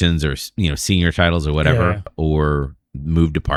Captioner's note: uh